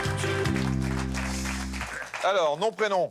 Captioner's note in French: applaudissements